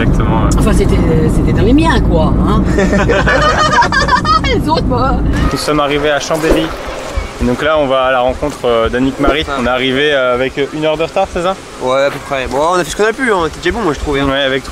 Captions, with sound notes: Actually... It was fitting with mine! (laughes) I don't care of others... We just arrived at Chambéry. And we are going to meet Anick-Marie. We arrived here with one hour delay, didn't we? Yes, approximately. We did our best, to me, we were quiet good.